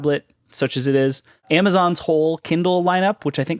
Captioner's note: none